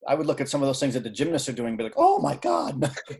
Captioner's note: chuckling